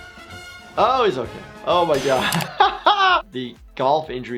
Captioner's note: laughing